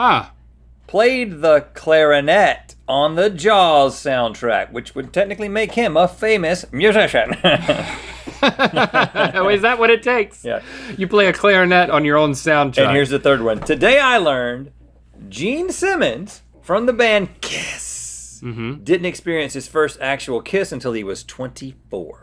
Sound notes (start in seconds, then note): 7.2 both laughing